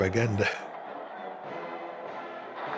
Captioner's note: crowd cheering